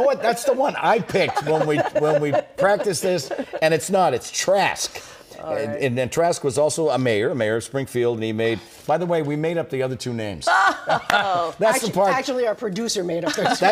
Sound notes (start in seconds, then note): 2.7 lghauter